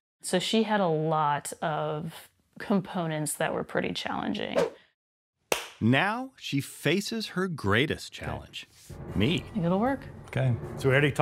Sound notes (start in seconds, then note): 4.6 air whooshes; 5.5 claps